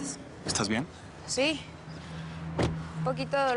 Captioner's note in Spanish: Portazo